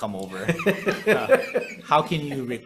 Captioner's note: laughs